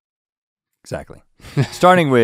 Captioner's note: chuckles